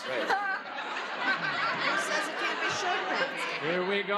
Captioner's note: laughs